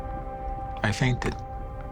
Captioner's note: fire crackling